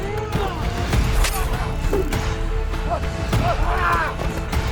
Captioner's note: dramatic music; all moaning